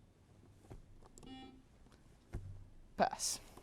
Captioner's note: buzzer beeps